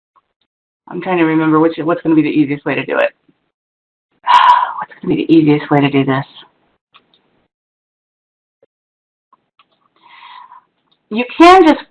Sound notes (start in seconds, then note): 4.2 sighs